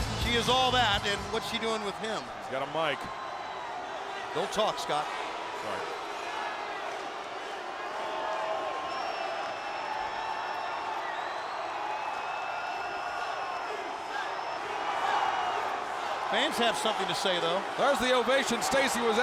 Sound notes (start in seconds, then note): 7.2 crowd cheering